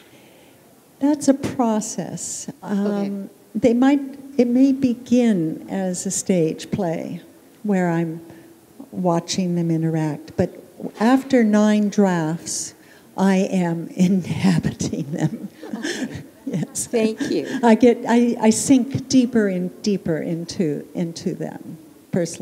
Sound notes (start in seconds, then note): 15.5 chuckle